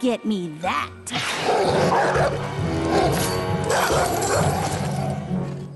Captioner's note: snarls